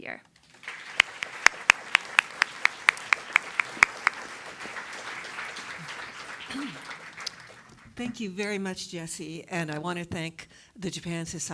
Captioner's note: applause